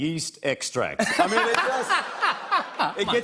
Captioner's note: Fallon and audience laughs